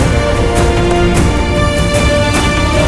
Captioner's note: Car door opens